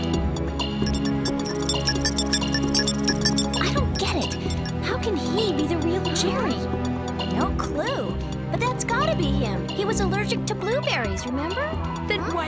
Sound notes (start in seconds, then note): 0.8 beeping